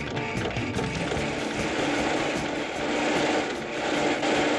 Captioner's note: engine starting